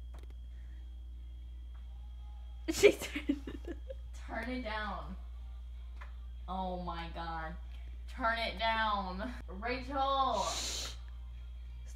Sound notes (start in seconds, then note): 2.7 laughing